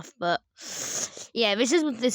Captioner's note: s n i f f